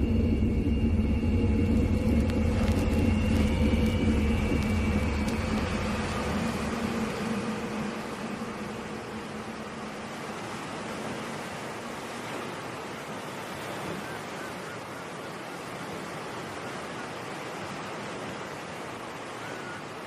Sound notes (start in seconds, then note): 0.2 eerie distorted noise; 5.2 waves crash